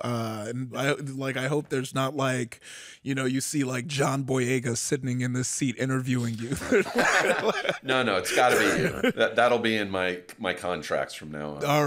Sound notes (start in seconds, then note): 6.5 laughs loudly